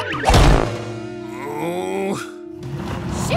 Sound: screaming; groaning

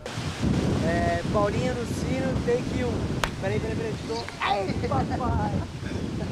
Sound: speaking in foreign language

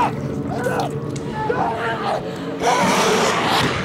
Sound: growling

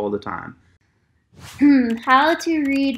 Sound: keyboard clicking

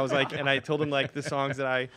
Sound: laughs

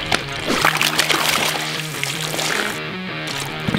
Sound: water splatters

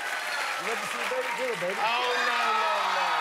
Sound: cheers and applause

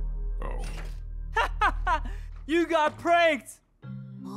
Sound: laughs

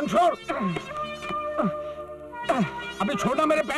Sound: grunts

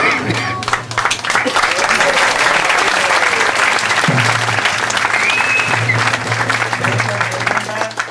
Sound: applause

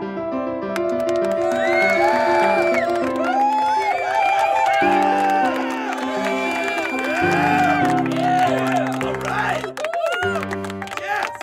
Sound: applause

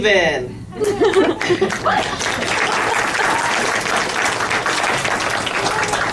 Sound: laughter and applause

